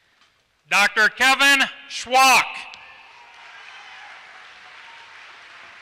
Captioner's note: applause